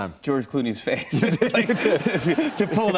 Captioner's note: laughter